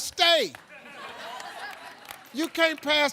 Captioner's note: audience laughing